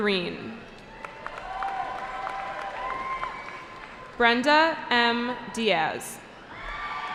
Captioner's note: cheering